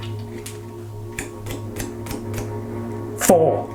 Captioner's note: finger flicking